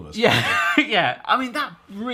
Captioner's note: laughs